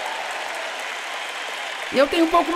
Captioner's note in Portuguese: audiência aplaude